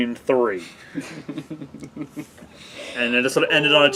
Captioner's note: laughing